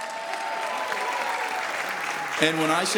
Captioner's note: applause